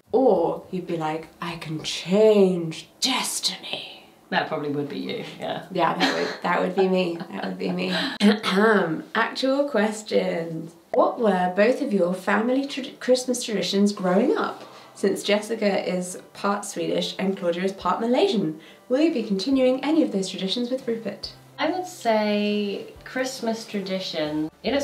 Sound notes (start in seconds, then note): 8.1 clears her throat